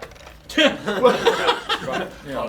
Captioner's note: group laughter